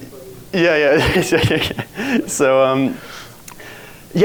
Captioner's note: chuckles